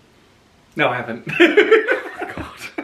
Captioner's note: laughs